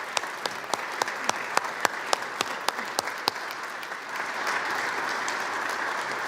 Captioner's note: applause